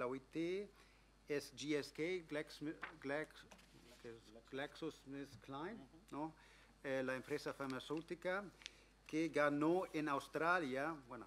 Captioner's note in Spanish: Speaking in English